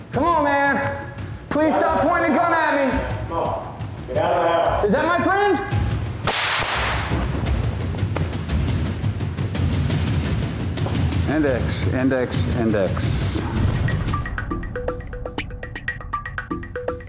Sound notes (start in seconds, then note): 6.2 gunshots; 14.4 upbeat music